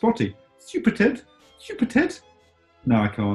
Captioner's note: posh voice